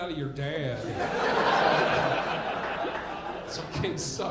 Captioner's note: audience laughing